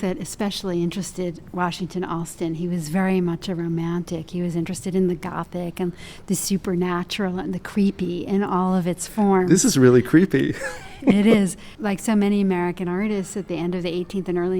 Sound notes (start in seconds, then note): 10.4 laughs